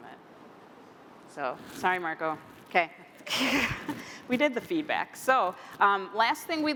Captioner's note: laughter